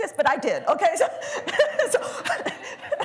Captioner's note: laughter